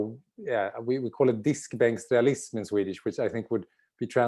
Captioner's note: speaks in Swedish